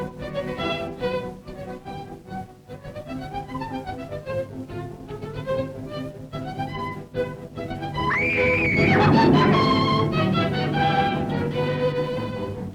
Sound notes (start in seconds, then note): 8.0 loud screaming; 9.7 suspenseful music